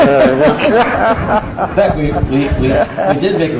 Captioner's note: laughter; laughing